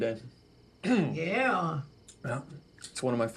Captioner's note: clears throat